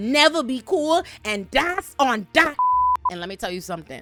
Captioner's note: beep